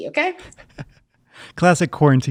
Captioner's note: laughing